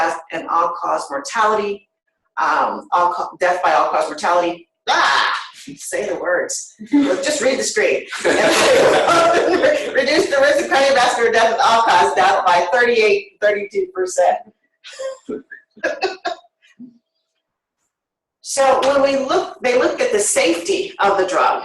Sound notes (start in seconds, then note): 8.1 laughter